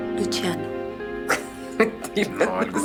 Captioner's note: laughing